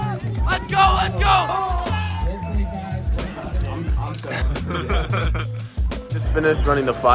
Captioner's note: crowd Cheering